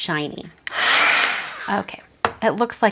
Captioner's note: heat tool whirs